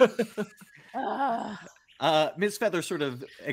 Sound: multiple laughing; groaning

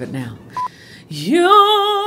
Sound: beep

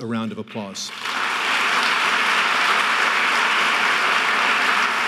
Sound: audience clapping

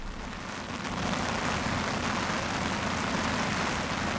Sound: sound of rain drops hitting wooden boards

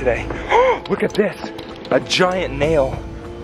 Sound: gasp

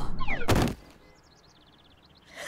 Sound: thud; birds chirp

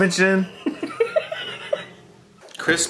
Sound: laughing

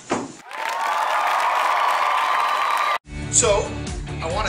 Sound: cheering

